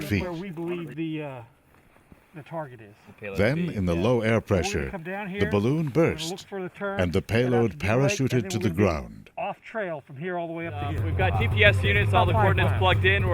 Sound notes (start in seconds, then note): 3.4 voiceover